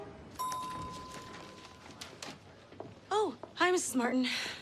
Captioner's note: elevator bell dings